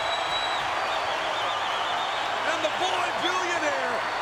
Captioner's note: crowd cheering